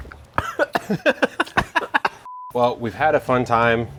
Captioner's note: coughing